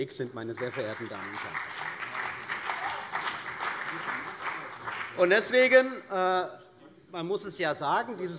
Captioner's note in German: Beifall bei der CDU und dem BÜNDNIS 90/DIE GRÜNEN